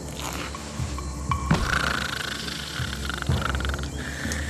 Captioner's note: snoring